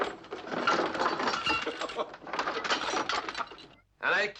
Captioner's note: Fernand's father laughing